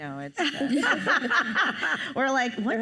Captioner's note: panelists laugh